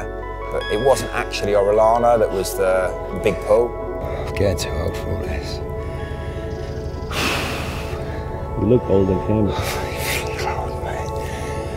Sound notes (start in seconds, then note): 7.0 heavy exhaling